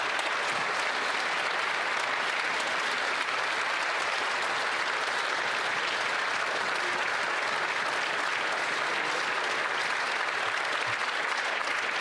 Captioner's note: applause